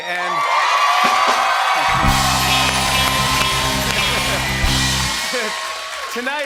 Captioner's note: cheering and applause